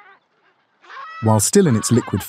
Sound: talking in Penguinese

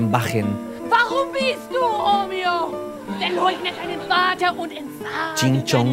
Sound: Romeo and Juliet in exaggerated german

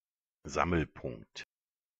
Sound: fast Pronunciation

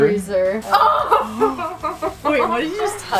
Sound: gasping

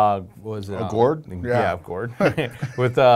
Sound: laughing

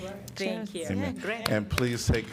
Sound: applause

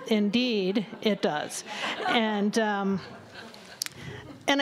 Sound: laughter

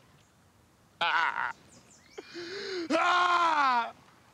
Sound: crying

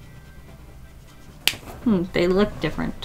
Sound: marker cap clicks

